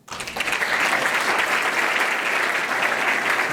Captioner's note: applause